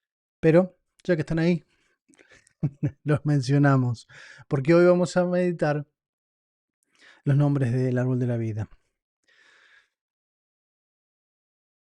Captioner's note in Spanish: risas